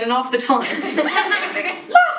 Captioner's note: laughing